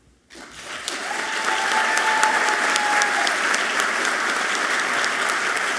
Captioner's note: audience clapping and cheering loudly